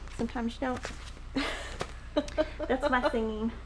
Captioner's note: laughing